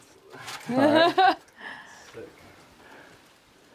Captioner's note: chuckling